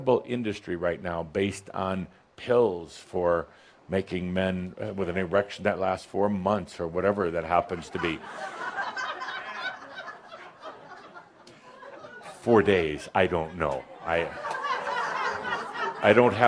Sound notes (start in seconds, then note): 7.6 laughter; 11.3 more laughter